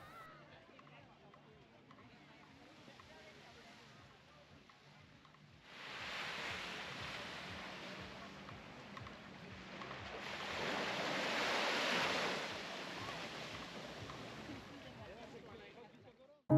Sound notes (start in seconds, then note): 5.7 water splashing